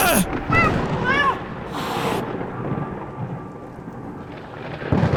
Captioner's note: angry terrified meow